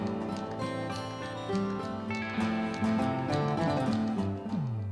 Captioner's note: Phone ringing